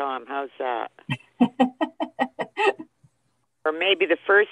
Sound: laughs

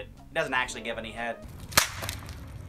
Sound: phone smash

